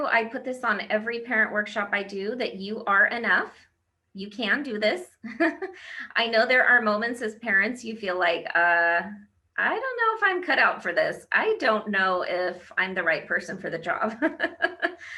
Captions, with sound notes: I put this on every parent workshop I do that you are enough, you can do this (laughs). I know there are moments as parents you feel like I don't know if I'm cut out for this, I don't know if I'm the right person for the job (laughs).